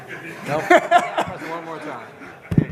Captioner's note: laughter